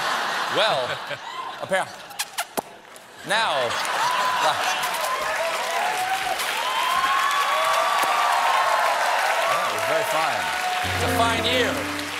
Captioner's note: laughter; cheers and applause